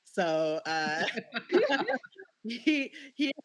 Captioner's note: laughter